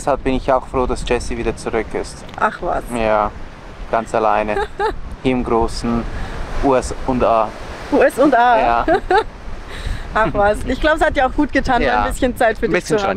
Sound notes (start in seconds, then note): 8.6 laughter